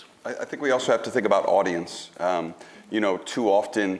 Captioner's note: none